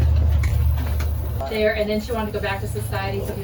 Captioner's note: chitter chatter